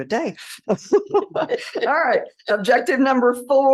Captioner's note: laughter